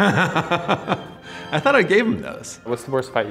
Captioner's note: laughing